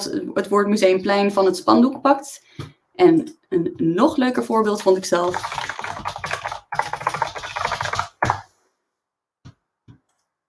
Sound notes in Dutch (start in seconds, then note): 5.1 toetsenbord klikt luid; 8.4 no speech